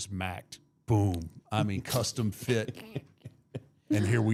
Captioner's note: laughing